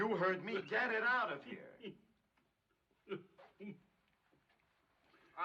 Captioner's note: coughing